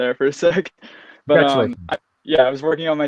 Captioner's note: faintly talking